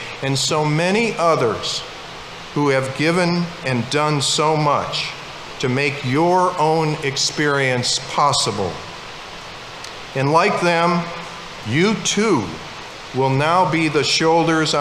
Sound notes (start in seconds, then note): none